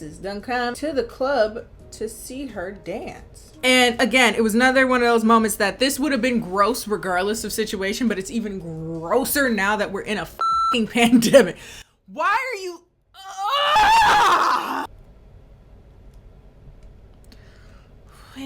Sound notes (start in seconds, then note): 10.4 beep; 13.1 screaming